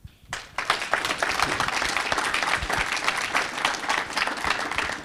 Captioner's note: audience applauding